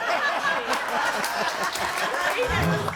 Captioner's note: all laughing